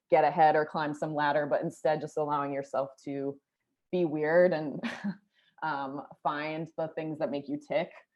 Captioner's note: laughter